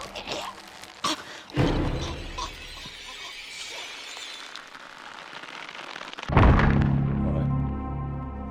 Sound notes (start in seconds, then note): 4.7 rope creaking; 6.3 thudding; 6.3 dramatic music